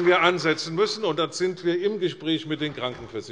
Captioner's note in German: Beifall bei der CDU und bei Abgeordneten des BÜNDNISSES 90/DIE GRÜNEN